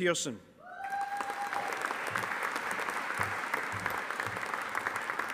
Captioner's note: audience applauding